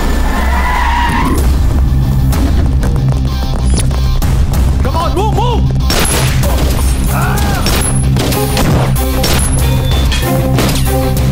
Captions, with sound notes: (Brakes squeak) Come on! Move.. (Gunshot)